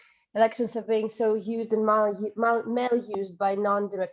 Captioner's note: stutters